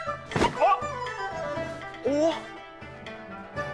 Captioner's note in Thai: เสียงความเจ็บปวด